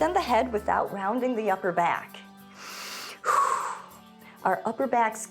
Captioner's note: inhales and exhales